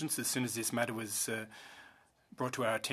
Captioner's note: speaking French